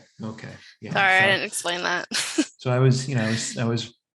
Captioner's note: chuckles